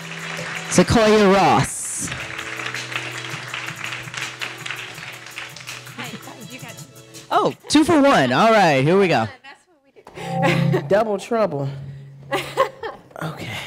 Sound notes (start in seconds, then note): 2.2 audience applauding; 10.5 laughing